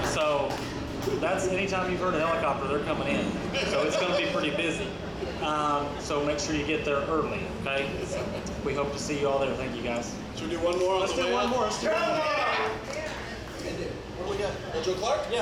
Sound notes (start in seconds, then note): 11.2 audience shouts